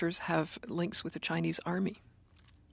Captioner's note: speaking French